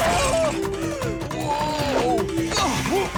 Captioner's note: nervous chuckle